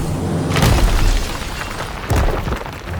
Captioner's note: stones crumbling